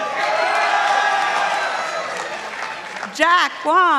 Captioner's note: participants applauding